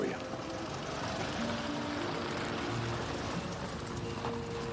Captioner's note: engine approaches